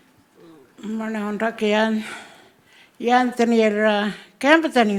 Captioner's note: speaking Anmatyerr